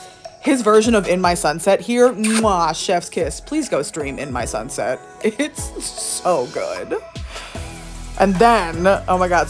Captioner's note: mwah